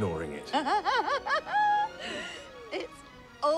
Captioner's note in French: en riant